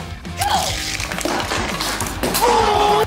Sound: crash

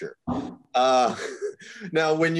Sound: chuckles

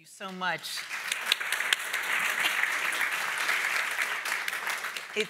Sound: audience applauding

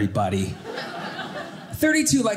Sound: audience laughing

